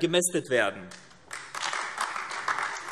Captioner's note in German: Beifall AfD